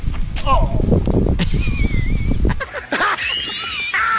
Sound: sound of someone falling; loud laughing

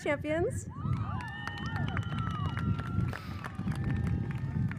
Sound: audience cheers

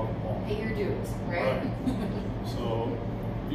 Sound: laughing

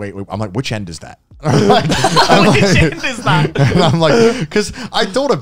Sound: laughing

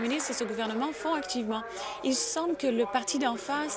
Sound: applause

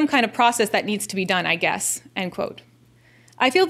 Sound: none

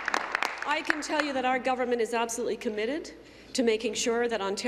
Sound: applause

